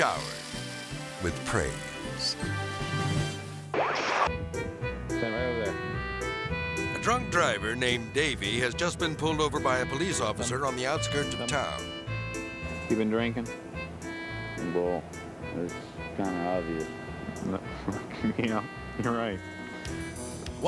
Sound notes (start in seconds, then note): 0.0 water spraying; 3.0 majestic music; 3.0 screen static; 4.9 melodic music